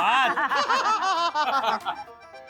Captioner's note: laughter; maniacal laughter